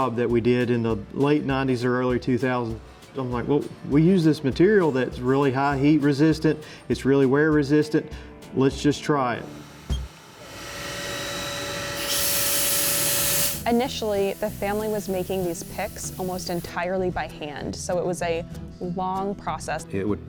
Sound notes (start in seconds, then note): 9.4 machine whirring